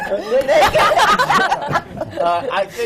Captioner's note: laughter